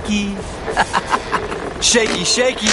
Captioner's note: laughs